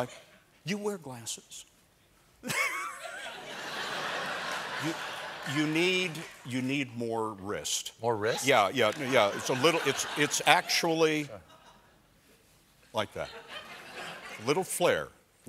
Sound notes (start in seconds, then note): 2.4 laughter